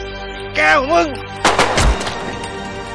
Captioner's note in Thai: เสียงปืน